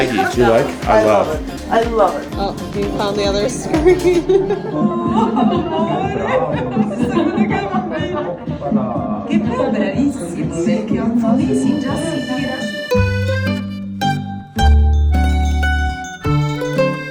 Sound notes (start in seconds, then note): 6.7 people talking in Italian; 14.3 romantic music